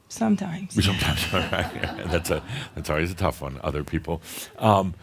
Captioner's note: laughter